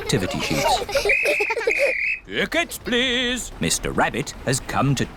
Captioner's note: blows whistle